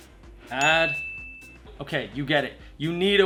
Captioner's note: bell dinging